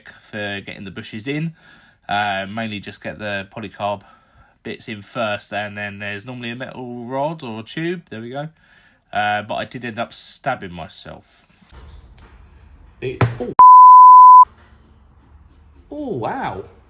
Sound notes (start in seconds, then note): 13.6 beep